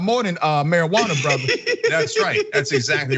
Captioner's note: laugh